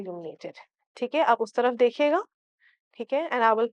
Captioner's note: in Urdu